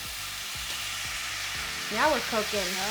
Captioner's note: shallots and garlic sizzling